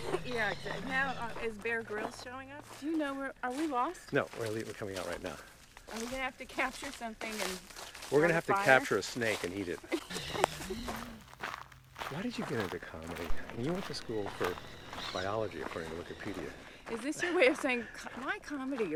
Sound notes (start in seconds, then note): 9.8 Lisa laughs; 10.3 birds squawk